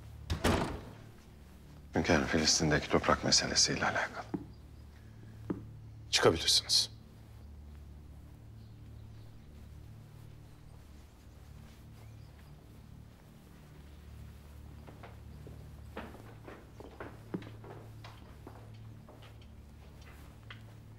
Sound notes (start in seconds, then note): 0.2 the door closing sound; 7.7 silence